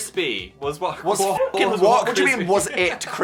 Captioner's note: dog barking